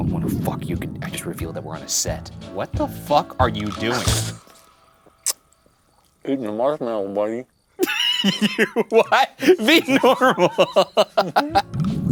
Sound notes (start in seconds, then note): 5.3 munching; 7.8 laughing; 11.6 spooky bubbling music